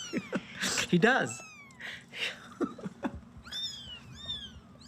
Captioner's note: laughs; kittens mewing